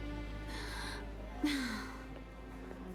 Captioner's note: sigh